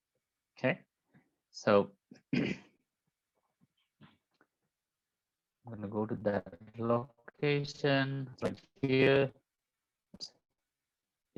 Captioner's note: clears throat